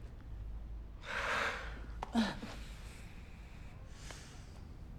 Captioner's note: both sighing